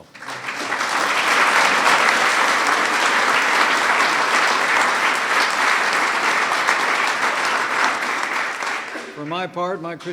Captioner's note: applause